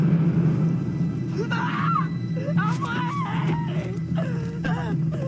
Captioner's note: woman screaming, crying